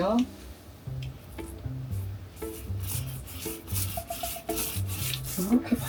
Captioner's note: brush brush